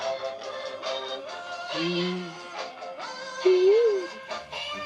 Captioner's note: humming